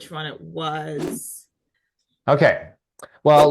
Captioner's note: graphic whooshing